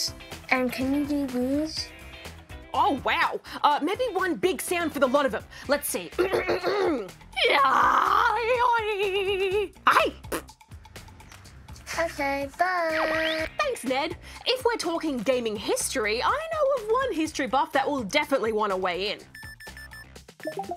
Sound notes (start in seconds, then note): 6.2 clears throat; 7.3 makes crazy sounds